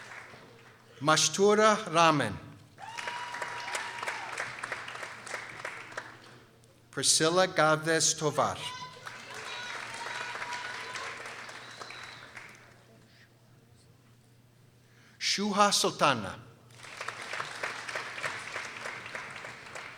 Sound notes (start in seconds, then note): 2.8 people cheering; 11.2 people applauding; 16.7 people applauding